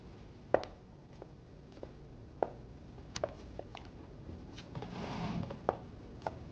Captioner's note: footsteps patter